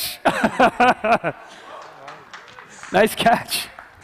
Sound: laughing

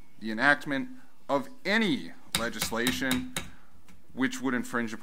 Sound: gavel bangs

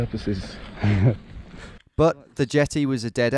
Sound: laughing

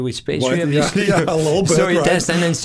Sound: laughing

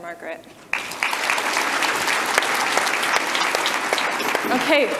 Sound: audience applause

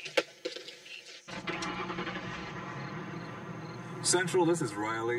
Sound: ignition Starts, Engine Revs

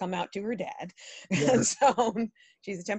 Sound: laughing

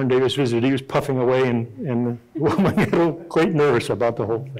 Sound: chuckling

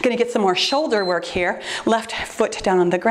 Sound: timer beeps

